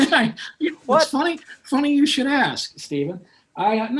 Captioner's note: laughter